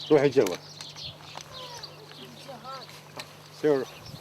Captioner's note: man talks to his family in Arabic